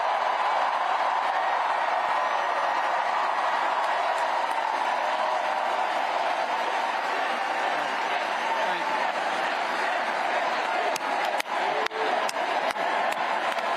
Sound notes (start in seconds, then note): 0.8 cheers and applause